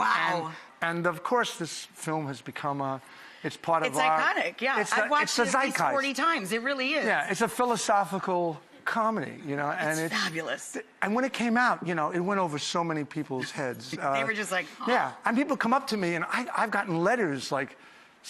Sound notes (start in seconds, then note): none